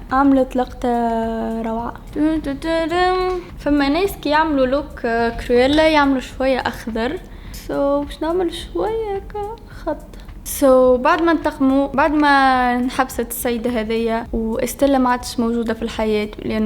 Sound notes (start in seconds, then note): 2.1 hums